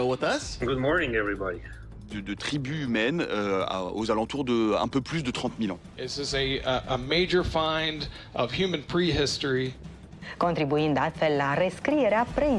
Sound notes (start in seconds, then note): 1.8 man 1 in French; 10.1 in other language